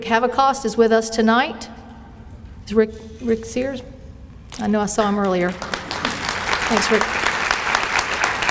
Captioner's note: applause